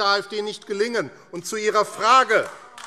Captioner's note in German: Beifall AfD